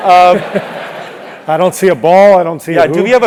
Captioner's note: laugh